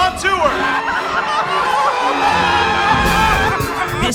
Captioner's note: screams! Horror!